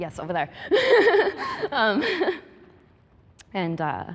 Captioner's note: laughing